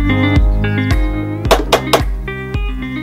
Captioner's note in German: klopfen